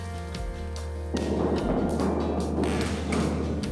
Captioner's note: banging echoes